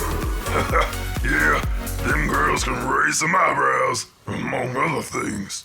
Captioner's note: laughs